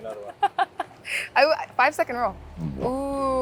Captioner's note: laughs